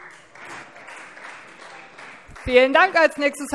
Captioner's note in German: Beifall Freie Demokraten